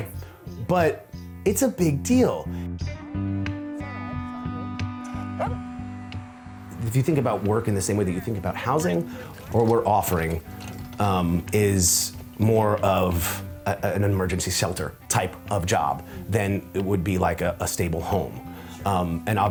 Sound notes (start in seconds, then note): 2.7 lighthearted guitar music; 5.2 dog barking